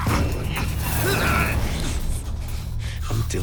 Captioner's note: choking